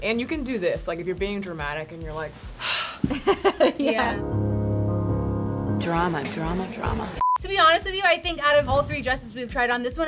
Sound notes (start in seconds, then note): 2.6 sighs; 2.8 laughs; 4.0 slow dramatic music